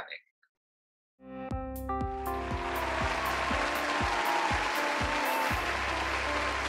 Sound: upbeat music; audience applauding

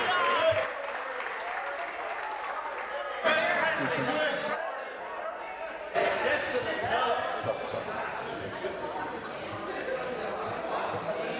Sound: applause

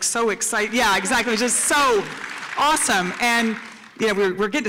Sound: applause

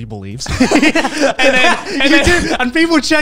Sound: everyone laughs

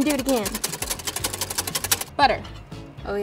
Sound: whisking eggs

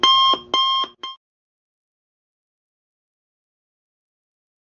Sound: silent

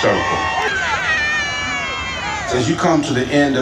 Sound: audience cheers

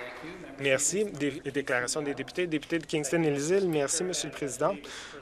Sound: some Applause

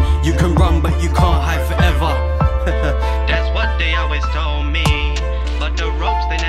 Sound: haha

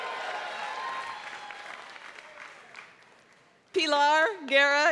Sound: applause

